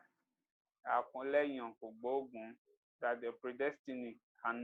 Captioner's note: speaks Yoruba; speaks Yoruba